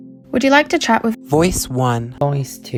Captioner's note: voiceover